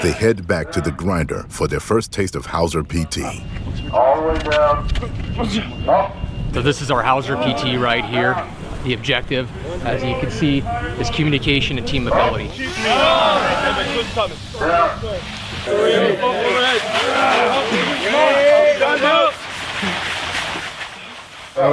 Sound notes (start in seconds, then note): 12.5 men grunting; 18.3 men grunting